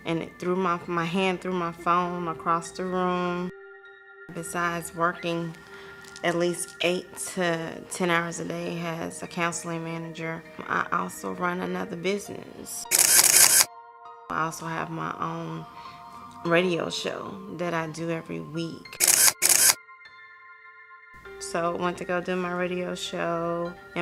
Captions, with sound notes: and my hand threw my phone across the room. Besides working at least eight to 10 hours a day as a counseling manager, I also run another business. (camera shutter clicking) I also have my own radio show that I do every week. (camera shutter clicking) (gentle piano music) So I went to go do my radio show